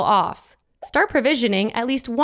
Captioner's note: text blooping